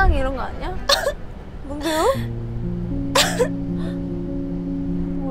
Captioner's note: suddenly starts crying